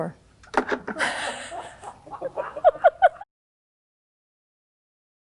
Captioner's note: people laughing